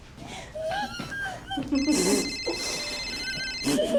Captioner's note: phone ringing; whimpering